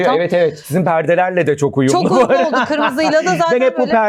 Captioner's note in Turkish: kahkaha